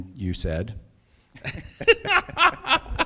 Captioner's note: laughing